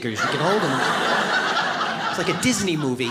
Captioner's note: audience laughs